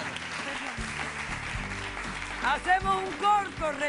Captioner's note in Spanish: Aplausos